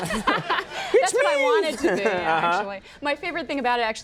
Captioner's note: laughs